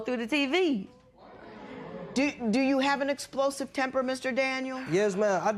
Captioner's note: spectators murmur